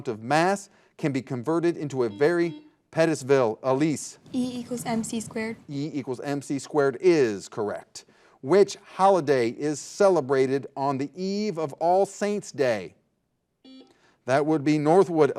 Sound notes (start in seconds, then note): 2.0 buzzer buzzing